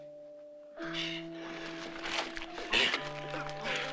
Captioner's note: grunting